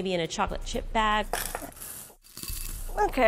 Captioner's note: chocolate rattling